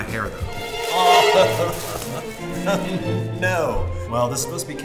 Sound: laughing

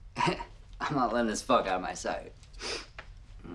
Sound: scoffs

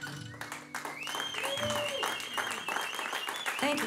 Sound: applause

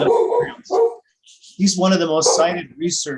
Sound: dog barking

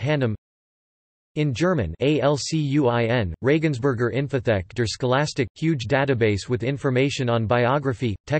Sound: in German

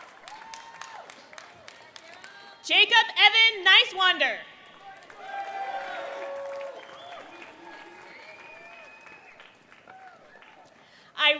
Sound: applause

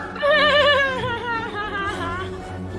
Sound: nervous laugh

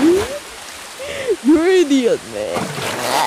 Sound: laughing

